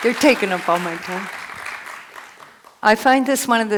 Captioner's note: applause